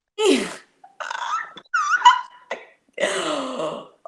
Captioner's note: squeals